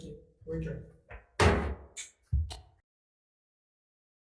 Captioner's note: gavel thuds